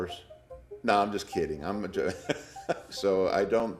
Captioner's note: laughs